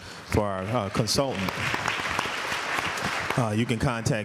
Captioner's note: applause